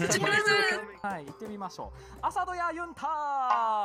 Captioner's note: speaking Japanese